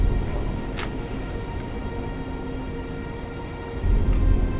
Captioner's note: match clicking